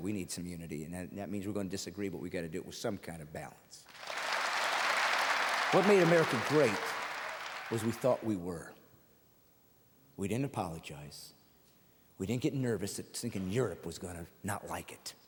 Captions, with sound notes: He loved people. In an age of terror by the way, I need all Americans on my side, we need some unity, that means we're going to disagree, but we've gotta find some kind of balance. [audience applauding] What made America great, was we thought we were.